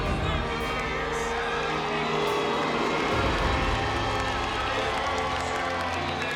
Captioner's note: cheering